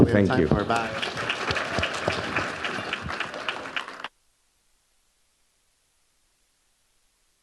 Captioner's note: audience applauding